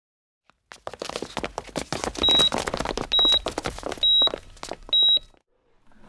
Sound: footsteps; hospital sounds

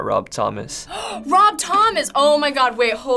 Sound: gasping

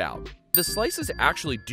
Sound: dings

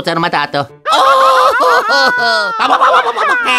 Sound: italian gibberish; screaming

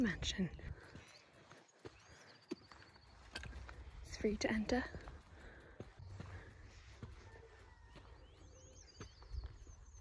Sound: sound of birds and distant traffic

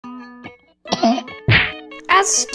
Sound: cof

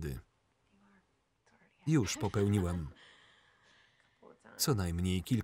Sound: laughs

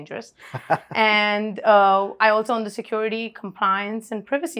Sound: laughs

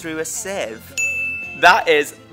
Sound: correct ding sound

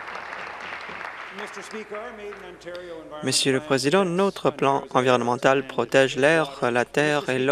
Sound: applause

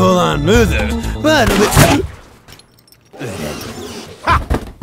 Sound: shot fires

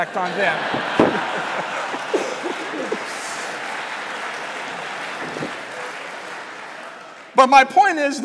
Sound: laughter/Applause

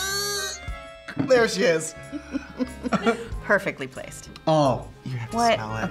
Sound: laughs

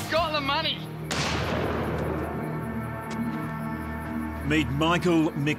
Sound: gun firing

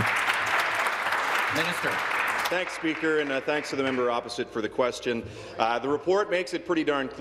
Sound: applause

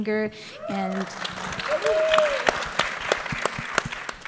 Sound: applause

